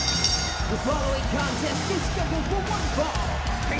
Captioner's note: bell rings; crowd cheers